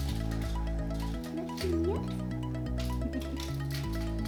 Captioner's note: giggle